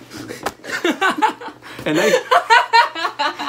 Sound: laughter

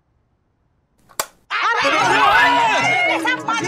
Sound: shouting

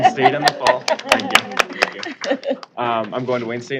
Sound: applause

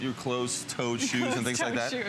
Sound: laughter

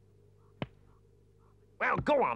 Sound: staff thumps

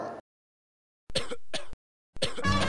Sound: Chris coughs

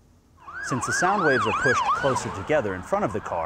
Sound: siren wailing

